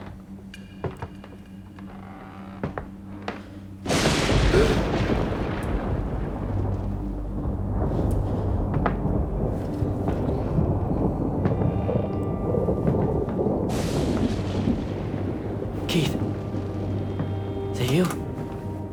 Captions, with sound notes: (creaking wood) (footsteps) (thunder claps) (gasps) (footsteps) - Keith. Is that you?